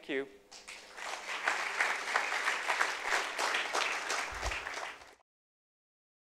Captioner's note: applause